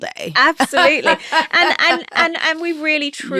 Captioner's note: laughing